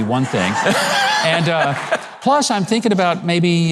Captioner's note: audience laughs